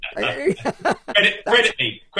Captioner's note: both laughing